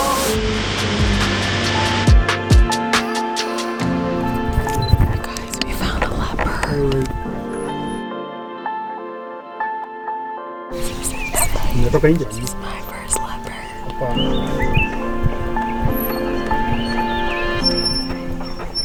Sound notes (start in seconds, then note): 2.5 gentle light music continues; 7.0 gentle light music continues; 13.9 birds chirping happily